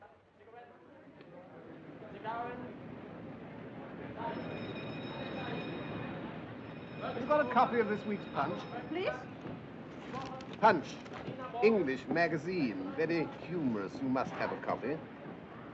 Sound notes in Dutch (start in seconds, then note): 3.6 mensen praten; 4.1 trolleybel rinkelt